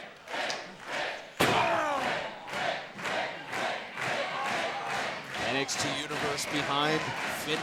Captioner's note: fans chanting